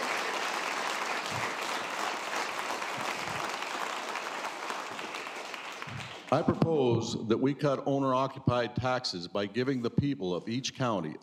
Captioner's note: applause